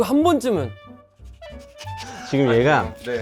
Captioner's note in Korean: 킁킁